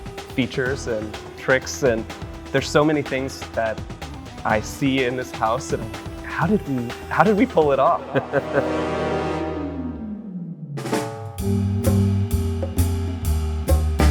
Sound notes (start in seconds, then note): 7.9 laughing